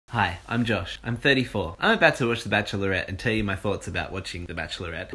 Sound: none

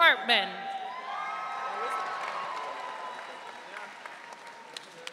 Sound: audience cheering

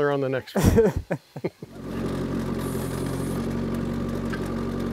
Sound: laughs

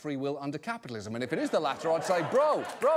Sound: audience laughter

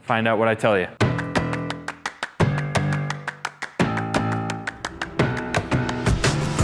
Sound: upbeat instrumental music; fast clapping

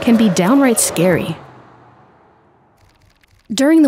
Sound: music cuts out

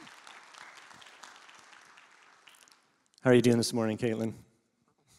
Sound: congregation claps

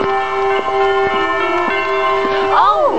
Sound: footsteps

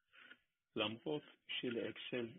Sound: Hebrew spoken

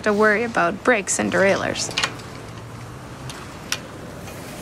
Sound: metal Lock Clammering

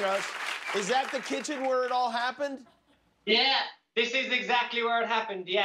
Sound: applause

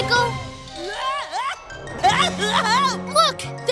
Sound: screaming

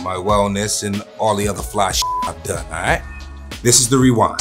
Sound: beeps

